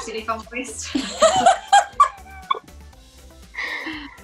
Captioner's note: laughs